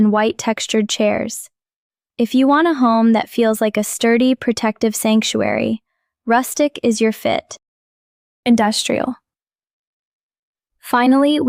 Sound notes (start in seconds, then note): 9.8 pause